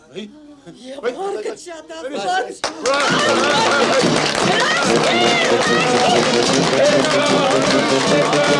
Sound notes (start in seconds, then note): 1.1 hubbub; 4.6 clap